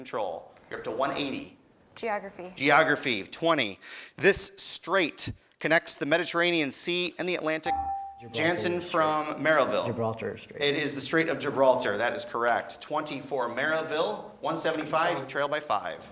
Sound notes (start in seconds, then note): 7.6 beeping